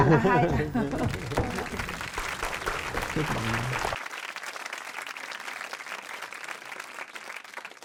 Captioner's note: applause